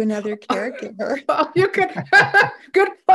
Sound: all laughing

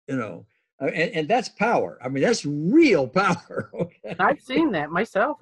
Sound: laughs

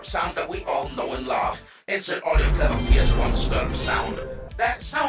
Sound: ChatGPT voice; insert audio clip of PS1 startup sound; ChatGPT voice

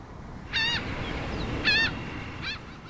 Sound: flock of seagulls sound

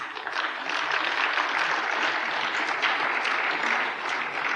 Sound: applause

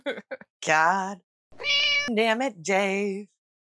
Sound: meow

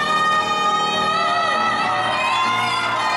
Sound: cheering

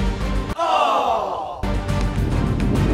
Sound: voiceover

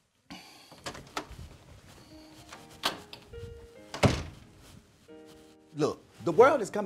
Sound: door opening and closing

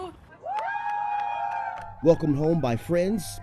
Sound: crowd cheering

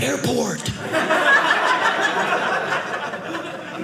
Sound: audience laughing

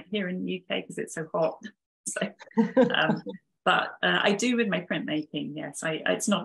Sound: chuckling

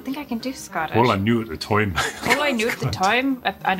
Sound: laughs

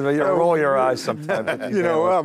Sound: group chuckles

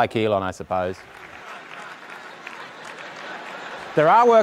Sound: audience chuckling

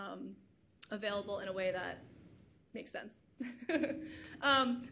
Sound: laughs

